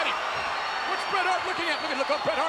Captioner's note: crowd cheers